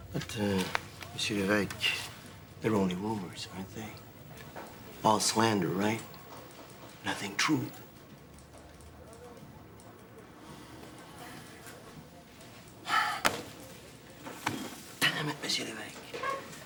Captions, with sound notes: But Monsieur Levesque, they're only rumors, aren't they? All slander, right? Nothing true. (object slams) (Azellus sighs) Dammit, Monsieur Levesque.